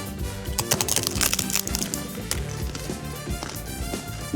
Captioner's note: crunching